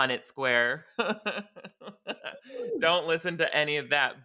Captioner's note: laughs